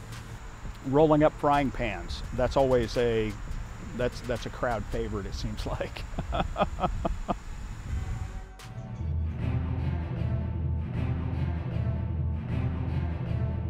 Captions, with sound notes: rolling up frying pans. That's a crowd favorite, it seems like. (chuckles) (tense music)